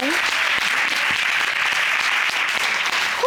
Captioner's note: applause